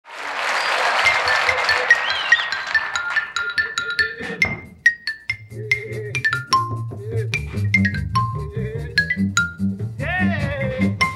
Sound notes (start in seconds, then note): 0.0 audience applauding; 1.0 xylophone playing